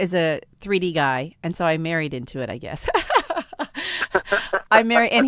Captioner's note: laughter